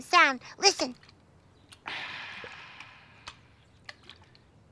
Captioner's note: water sloshing